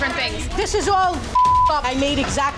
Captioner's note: beep